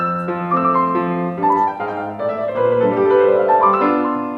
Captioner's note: none